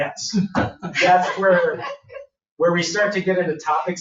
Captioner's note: everyone laughs